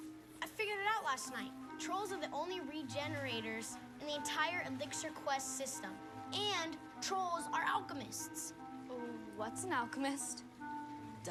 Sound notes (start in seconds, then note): none